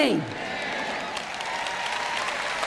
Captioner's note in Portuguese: audiência aplaude